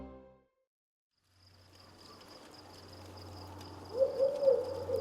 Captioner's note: crickets chirping; owls hooting